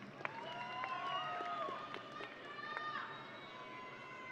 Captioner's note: audience cheering